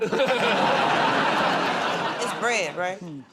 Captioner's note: laughter